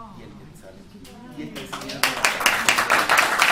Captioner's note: applause